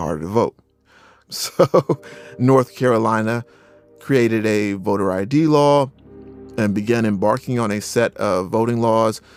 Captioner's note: laughs